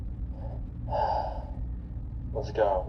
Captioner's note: sighs